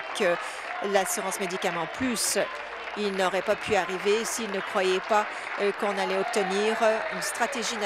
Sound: applause

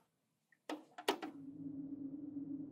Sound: button presses

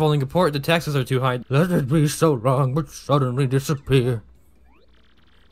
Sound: abruptly does an old man voice

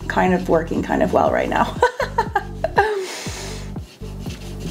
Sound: laughs

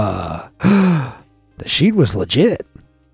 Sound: narrator gasps

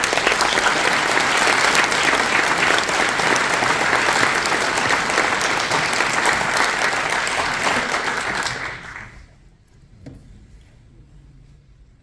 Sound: applause

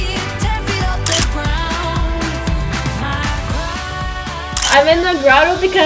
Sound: camera clicking

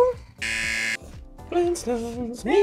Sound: buzzer

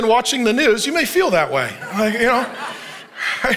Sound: congregation laughing

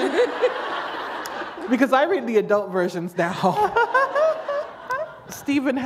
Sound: laughter

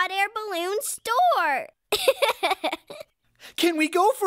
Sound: giggling

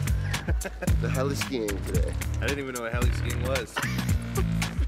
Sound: laughs

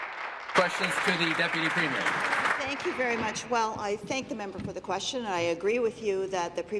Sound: applause

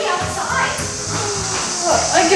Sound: mom yawning

